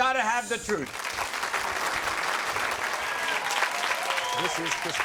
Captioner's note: audience applauds